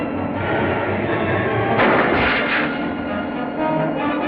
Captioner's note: gunshot